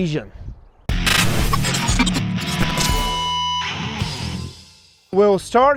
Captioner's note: exciting music; static crackling